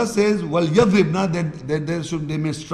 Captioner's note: Arabic